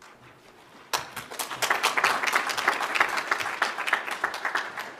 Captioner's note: audience applauds